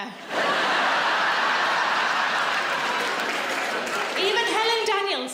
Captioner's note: audience laughs